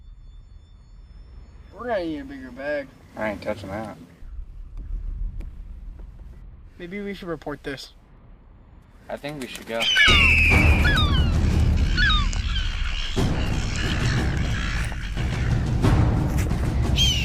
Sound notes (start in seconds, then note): 9.5 gulls squawking; 13.5 dramatic music